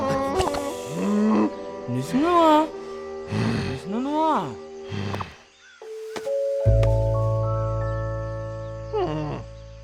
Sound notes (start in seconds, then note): 2.2 speaks gibberish